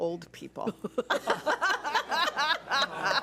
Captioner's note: laughs